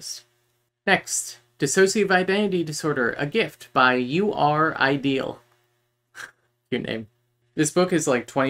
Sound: laughs

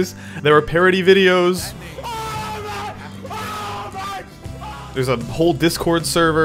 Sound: man screaming

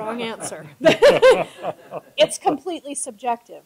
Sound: laughter

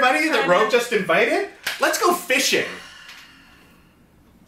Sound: sighs

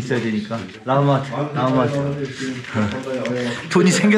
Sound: grumbling

